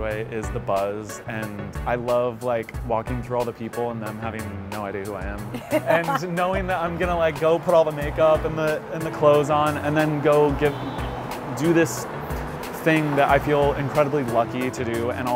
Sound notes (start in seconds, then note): 5.5 laughs